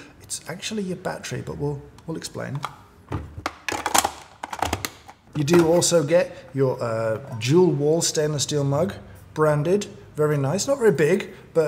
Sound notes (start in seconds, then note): none